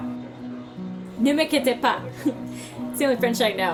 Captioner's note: speaks in French